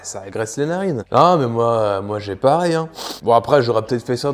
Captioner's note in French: renifle